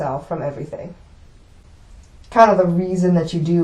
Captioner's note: none